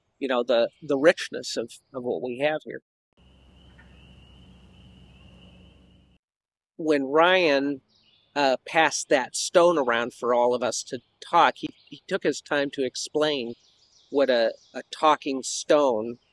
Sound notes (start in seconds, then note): 3.2 nature sounds